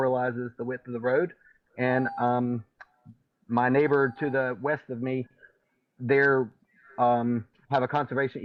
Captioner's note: beep